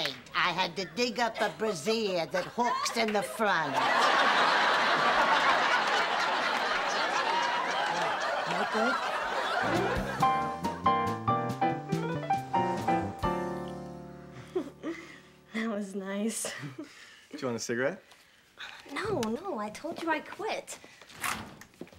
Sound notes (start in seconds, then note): 14.4 giggling